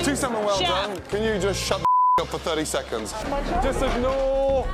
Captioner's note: beep